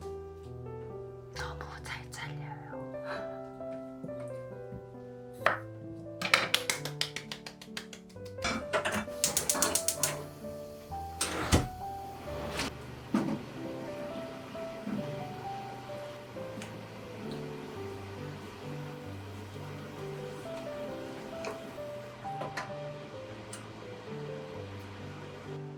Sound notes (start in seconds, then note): 6.3 applause